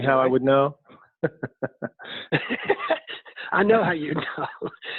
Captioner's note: laughing